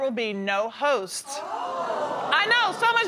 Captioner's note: audience exclaiming surprise